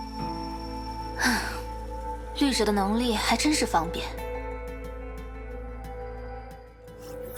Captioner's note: sigh